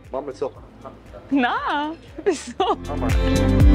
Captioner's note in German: lachen